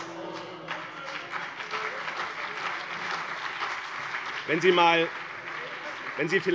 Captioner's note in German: Beifall BÜNDNIS 90/DIE GRÜNEN und vereinzelt CDU - Zurufe AfD:Oh!